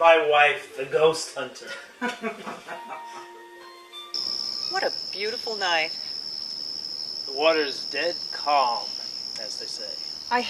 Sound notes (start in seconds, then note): 1.6 couple chuckling